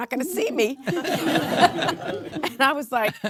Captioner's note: audience laughing